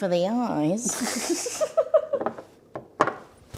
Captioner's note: laughing